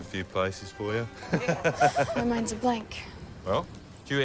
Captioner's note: laughs